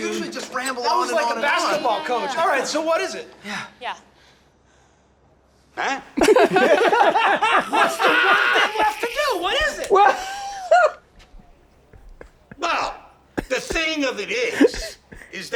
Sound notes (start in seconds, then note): 6.1 all laughing loudly; 10.3 Danny laughs loudly